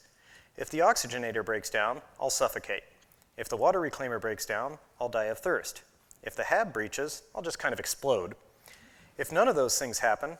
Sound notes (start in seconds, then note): none